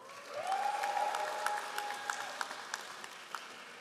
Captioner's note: all applauding